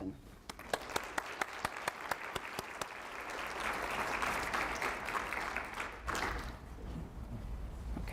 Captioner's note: clapping